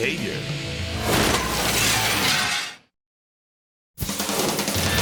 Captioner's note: glass shattering; fast music